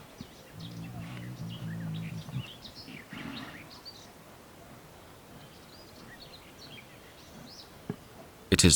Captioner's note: delikatny szum wiatru, cichy śpiew ptaków